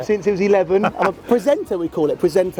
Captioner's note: laughs